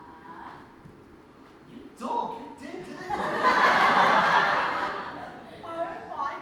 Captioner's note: audience laughs